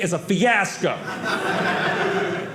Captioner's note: audience laughing